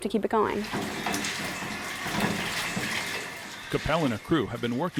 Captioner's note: water running